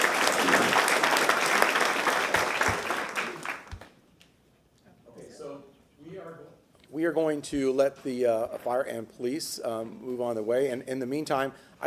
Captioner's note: applause